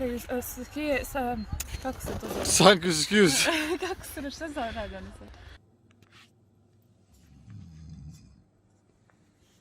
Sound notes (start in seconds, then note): 3.3 laughter